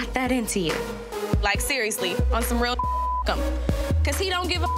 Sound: beep

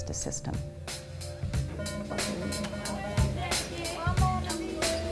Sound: music, school bell rings

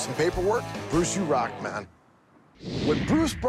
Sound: swish

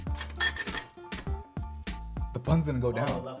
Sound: toaster hinges creaking

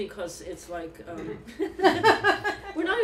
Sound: laughter

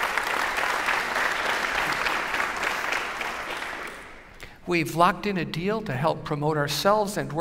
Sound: applause

